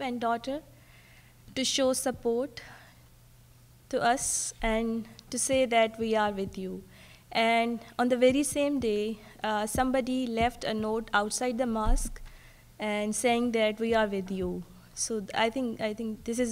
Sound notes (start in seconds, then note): none